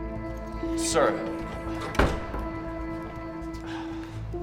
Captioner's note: door rattling; Drew sighs